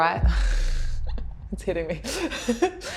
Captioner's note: laughs